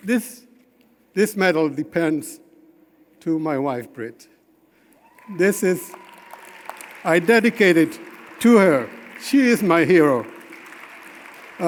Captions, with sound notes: this medal depends to my wife, Britt. This is, I dedicate it to her. (audience applauding) She is my hero.